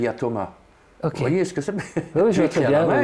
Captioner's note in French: Rire